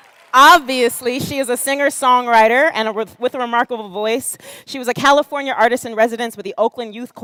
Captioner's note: cheers and applause